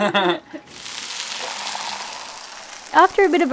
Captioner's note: both laugh; sizzling